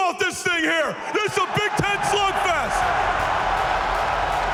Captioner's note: crowd roars